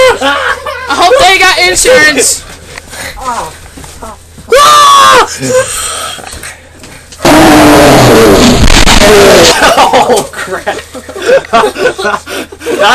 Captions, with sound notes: I hope they've got insurance... (screaming) (loud crash) Oh crap! (laughter)